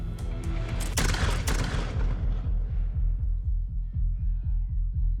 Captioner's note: gunshots